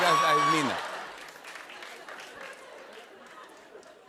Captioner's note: laughter